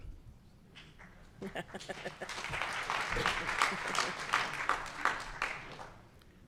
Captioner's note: applause; chuckles